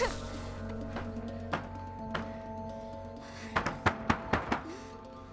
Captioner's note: pounding on door